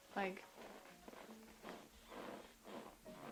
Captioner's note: chair noise